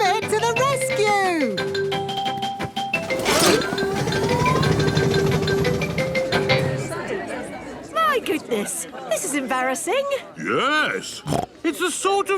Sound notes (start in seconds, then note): 6.1 all murmuring; 11.3 snorts